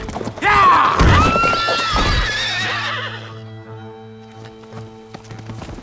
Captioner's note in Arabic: صهيل الحصان